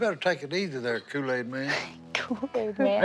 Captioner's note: chuckles